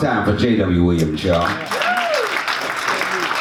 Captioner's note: audience cheers